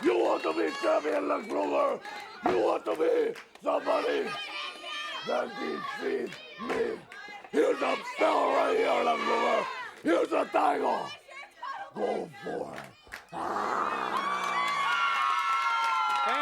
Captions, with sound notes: You want be champion, Lex Luger? You want to be somebody? Then defeat me. Here's the belt right here, Lex Luger, Here's the title. Go for it. (Nikita grunts) (audience cheers)